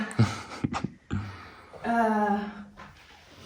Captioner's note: giggles